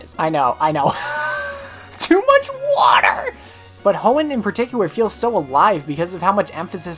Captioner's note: wheeze